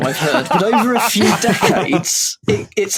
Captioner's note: group laughing